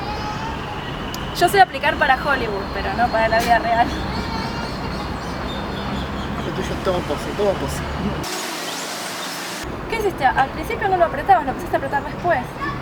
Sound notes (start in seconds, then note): 2.8 laughs